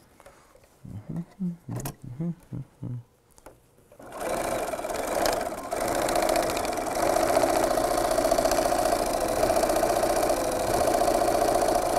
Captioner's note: sound of a sewing machine